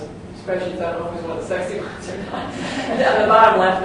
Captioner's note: laugh